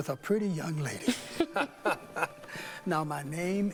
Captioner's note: chuckles